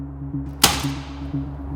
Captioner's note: sound of staple gun triggering